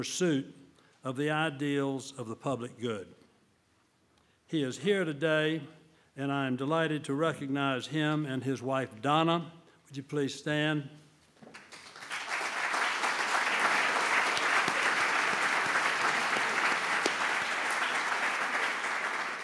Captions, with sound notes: pursuit of the ideals of the public good. He is here today, and I am delighted to recognize him and his wife Donna, would you please stand. (applause)